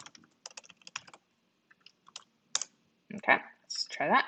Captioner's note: keyboard rattling